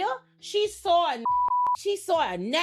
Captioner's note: beep